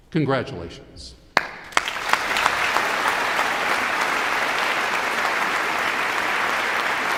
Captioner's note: all applauding